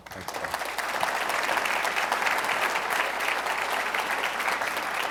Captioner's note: audience applauding